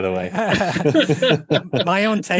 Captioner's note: all laugh